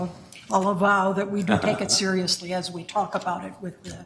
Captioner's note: chuckles